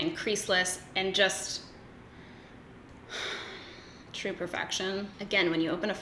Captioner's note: sighs